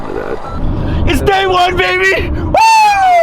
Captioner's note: cheers